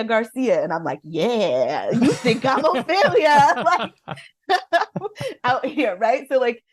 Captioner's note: laughter